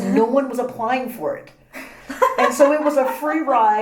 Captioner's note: laugh